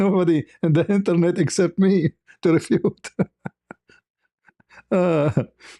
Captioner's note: ketawa